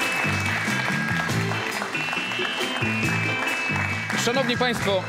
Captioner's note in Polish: Aplauz